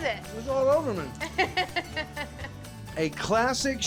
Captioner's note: chuckling